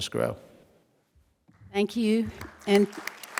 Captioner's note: applause